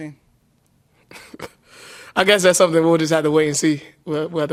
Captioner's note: laughs